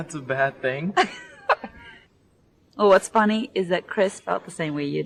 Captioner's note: laughs